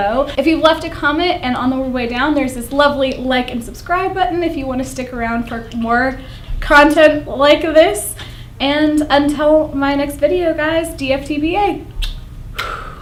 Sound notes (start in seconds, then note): 12.5 blows kisses